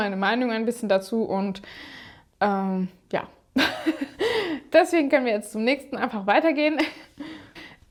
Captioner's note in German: gelächter